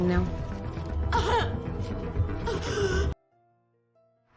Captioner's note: sobbing